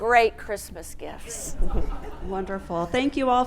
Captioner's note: audience laughing